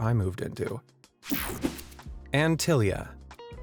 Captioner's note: air whooshing